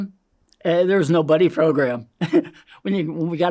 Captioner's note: laughs